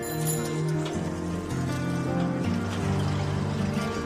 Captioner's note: bicycle bell rings